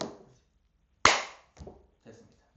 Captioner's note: clap